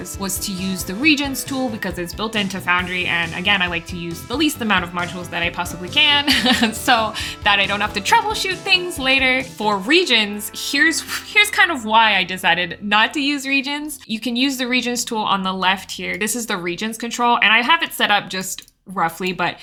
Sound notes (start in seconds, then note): 6.2 laughs